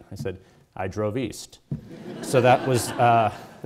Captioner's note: audience laughing